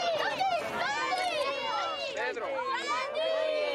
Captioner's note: anak berteriak